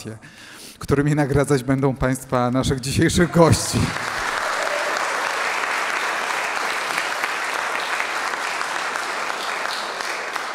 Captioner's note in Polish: aplauz